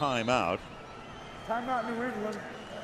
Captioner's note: whistle